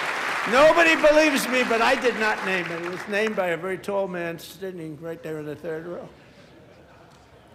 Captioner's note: applause